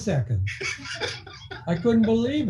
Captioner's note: laughing